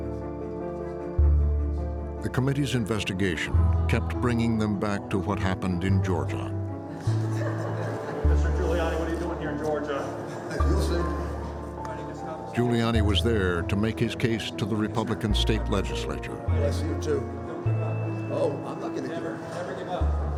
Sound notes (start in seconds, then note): 6.9 laughter